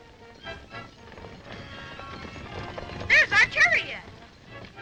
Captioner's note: horses galloping